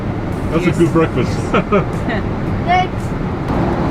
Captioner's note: chuckles